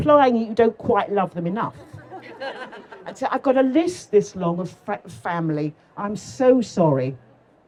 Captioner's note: laughter